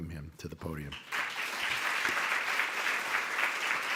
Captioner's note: applauding